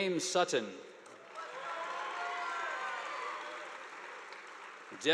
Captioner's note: audience applauding